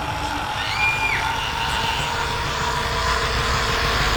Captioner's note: girl screams